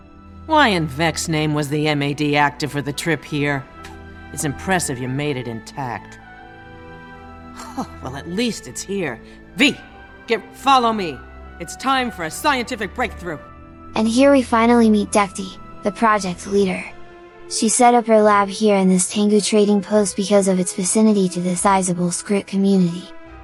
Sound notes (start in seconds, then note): 7.6 laugh